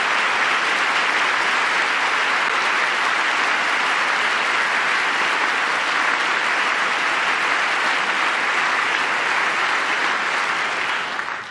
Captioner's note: applause